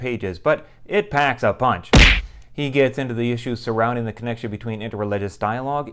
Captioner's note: punching sound